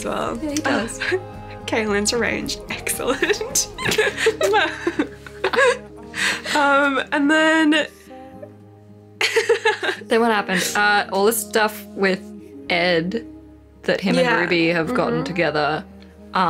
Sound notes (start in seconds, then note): 3.3 both laugh; 7.4 laughs